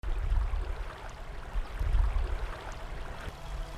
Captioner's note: rippling water